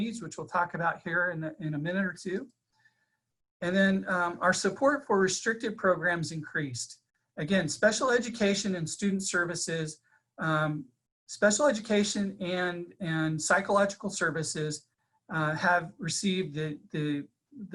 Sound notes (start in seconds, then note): none